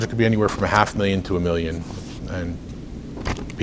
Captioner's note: rustles papers